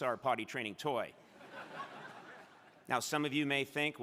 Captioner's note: crowd laughing